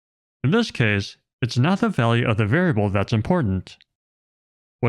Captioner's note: none